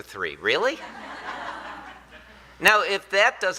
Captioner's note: audience laughing